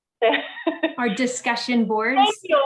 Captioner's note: woman laughs